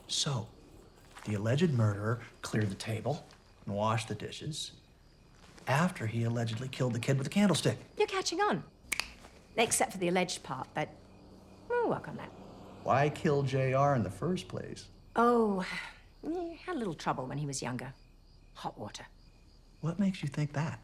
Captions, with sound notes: - So the alleged murderer cleared the table, and washed the dishes, after he allegedly killed the kid with the candlestick. - You're catching on. (clicks fingers) Except for the alleged part, but we'll work on that. - Why kill JR in the first place? - Oh, he had a little trouble when he was younger, hot water. - What makes you think that?